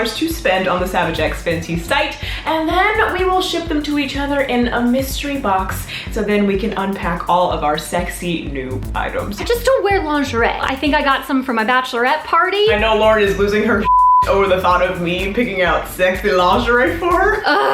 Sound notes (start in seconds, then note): 13.8 beep